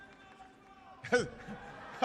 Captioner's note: laughter